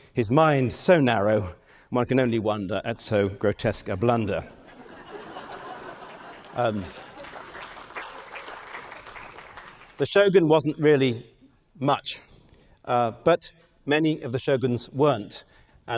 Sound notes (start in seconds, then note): 4.6 audience laughing; 6.9 audience clapping